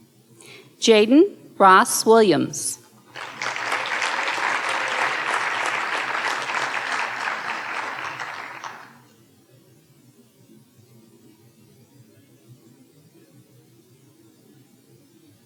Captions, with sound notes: Jayden Ross Williams. (audience cheering and applauding)